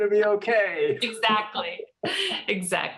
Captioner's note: chuckles